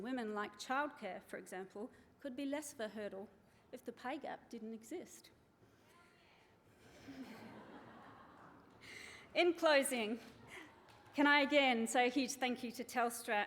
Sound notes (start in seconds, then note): 5.5 woman calls out; 7.1 chuckles